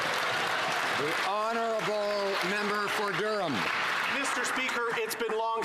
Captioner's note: some Applause